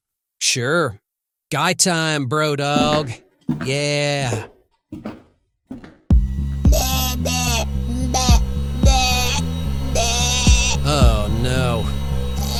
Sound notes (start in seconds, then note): 5.7 struggling noises; 6.1 dramatic music